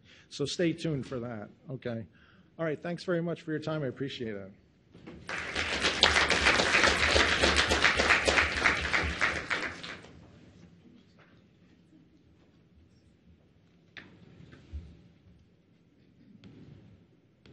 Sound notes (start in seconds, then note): 5.2 audience applauding